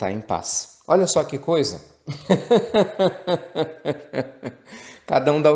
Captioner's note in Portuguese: Risos